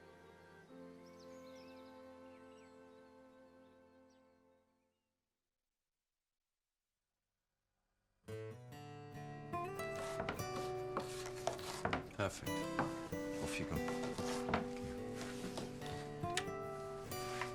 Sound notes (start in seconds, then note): 8.8 knife thudding; 8.8 upbeat music; 14.9 gentle music